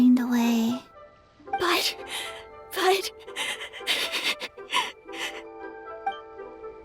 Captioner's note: sob